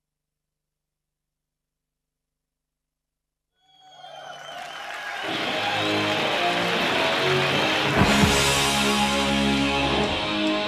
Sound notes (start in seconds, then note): 5.2 rock music; 6.1 people applauding